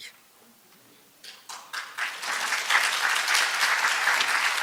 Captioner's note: applause